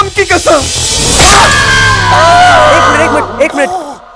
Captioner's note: Screams